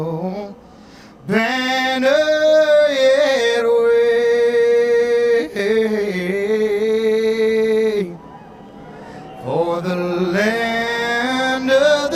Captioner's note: cheers and applause